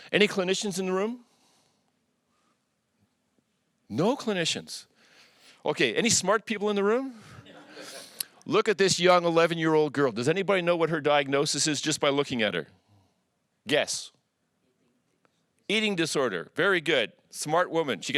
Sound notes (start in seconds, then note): 7.4 audience chuckles